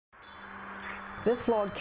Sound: wind chimes tinkling

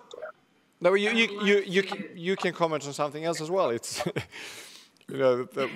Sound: laughs

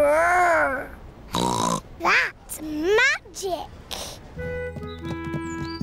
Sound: snorts

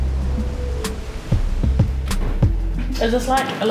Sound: waves rushing

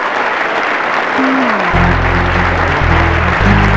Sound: applause

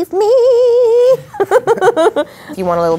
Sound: Katherine laughs

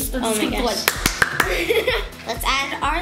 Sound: violent clapping

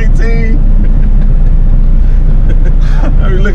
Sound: laughter

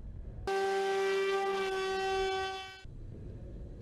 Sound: loud drone sound

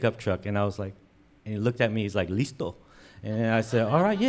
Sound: speaks in foreign language

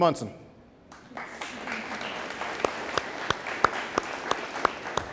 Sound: audience applauding

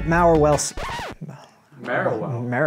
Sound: record scratches

